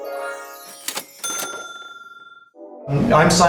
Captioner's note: ding